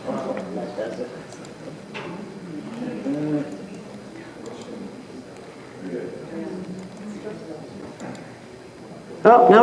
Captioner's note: audience mummers